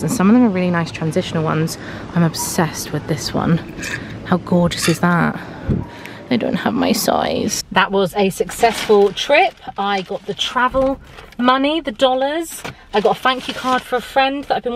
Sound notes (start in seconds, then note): 4.7 hanger sliding